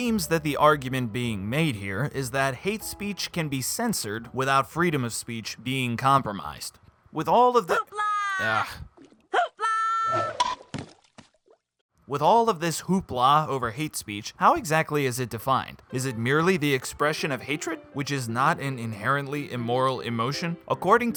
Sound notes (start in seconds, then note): 7.2 hoopla!!!